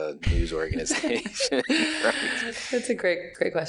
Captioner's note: laughing